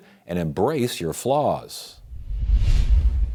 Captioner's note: screen whooshing